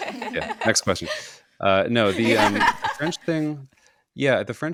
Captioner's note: hosts laugh